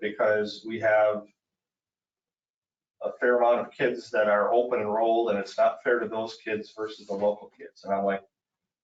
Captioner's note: none